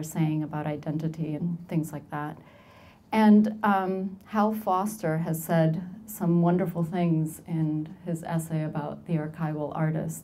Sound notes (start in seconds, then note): none